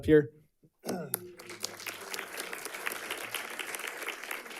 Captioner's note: audience clapping